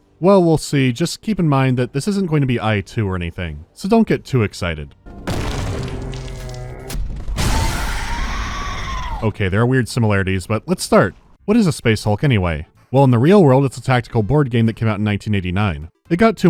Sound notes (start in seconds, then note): 5.2 pow; 5.2 dying wail; 7.3 dying warble; 7.3 pow